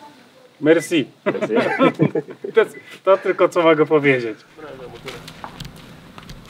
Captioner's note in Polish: śmiech